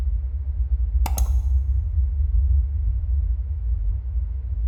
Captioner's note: mouse clicking